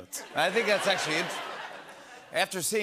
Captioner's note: laughter